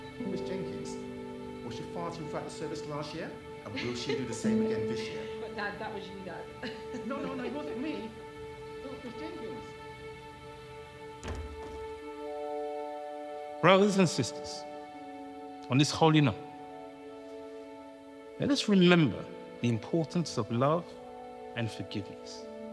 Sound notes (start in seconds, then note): 6.6 Diane and Evelyn laughing; 9.6 sentimental music; 11.1 door clicking shut